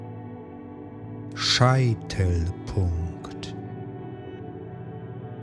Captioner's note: german